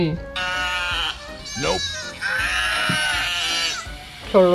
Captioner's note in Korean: 양 울음소리